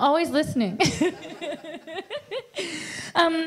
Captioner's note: laughs